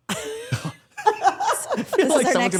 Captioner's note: Stephanie and Dylan laugh